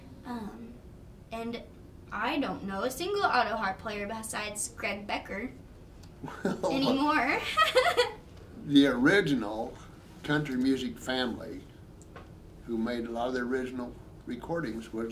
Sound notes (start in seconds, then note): 7.4 both laughing